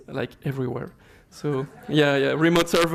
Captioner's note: laughter